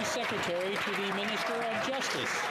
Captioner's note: some Applause